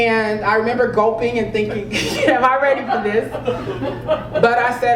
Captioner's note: laugh